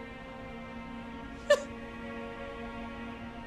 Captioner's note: sobs